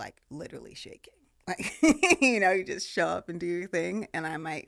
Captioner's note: laughing